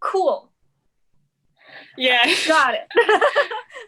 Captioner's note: laughs